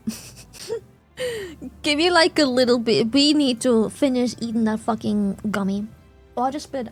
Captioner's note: laughs